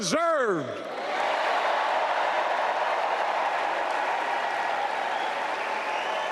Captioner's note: applause